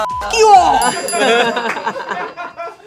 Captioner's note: beep; bell dinging; all laughing